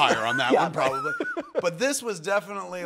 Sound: laughing

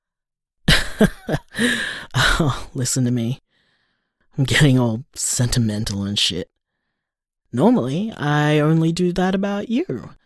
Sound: chuckles

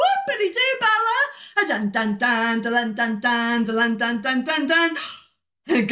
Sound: gasp

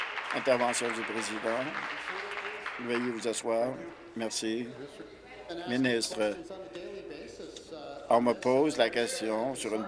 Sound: applause

